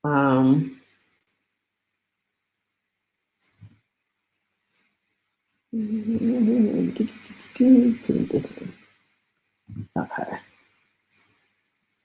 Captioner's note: mouth noises and hums